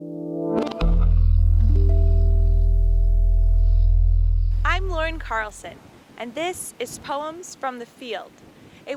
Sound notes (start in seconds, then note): 1.7 chimes ring